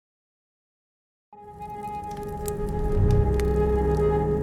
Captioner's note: fire crackling